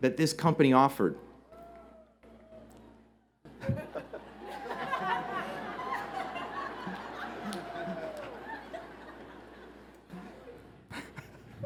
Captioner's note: laughter